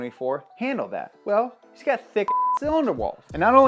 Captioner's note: beep